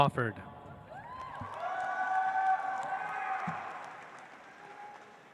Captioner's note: audience applauds